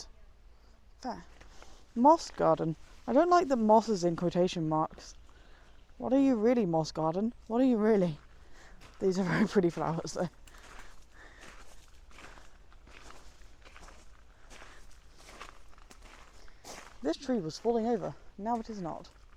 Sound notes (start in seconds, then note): 13.1 gravel crunches